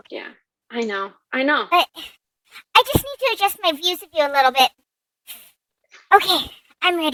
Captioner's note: pause and deep breath